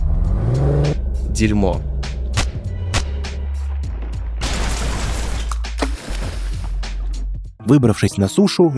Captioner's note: sound of a fall